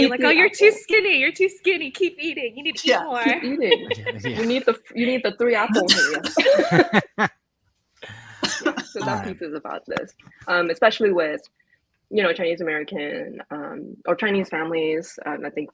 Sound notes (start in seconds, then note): 2.7 laughs; 6.3 laughs